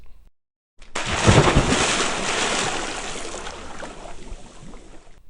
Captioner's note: water splashing